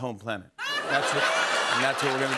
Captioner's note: laughter